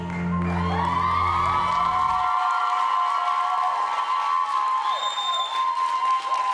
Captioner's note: applause